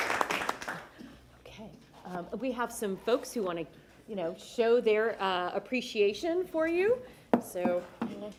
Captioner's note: applause